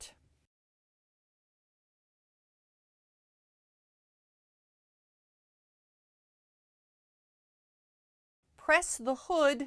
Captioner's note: no Sound Present